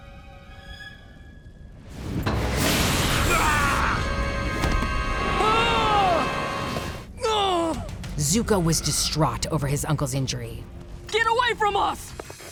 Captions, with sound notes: [screaming] [screaming] [groaning] Zuko was distraught over his uncle's injury. Get away from us!